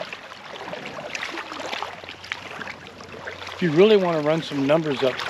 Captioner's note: splashing